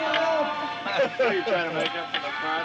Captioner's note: laughter